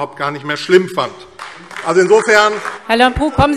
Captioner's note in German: Beifall AfD - Zurufe DIE LINKE